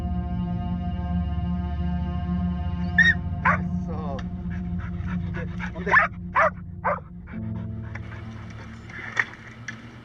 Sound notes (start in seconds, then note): 3.4 dog barks; 4.6 eerie music; 5.1 dog barks; 6.6 eerie music